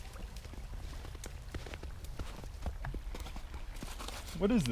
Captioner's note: footsteps